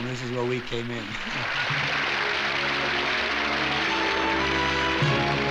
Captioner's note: applause